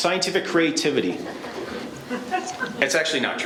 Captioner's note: laughing